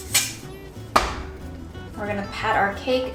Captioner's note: thudding sound